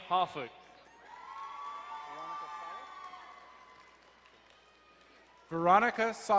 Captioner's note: crowd cheering and applauding